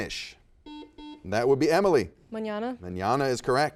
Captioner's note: buzzer beeps